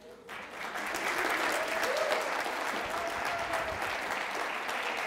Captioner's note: audience applauds